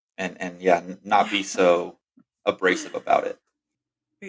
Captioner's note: <laugh>